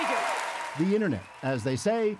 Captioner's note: cheers and Applause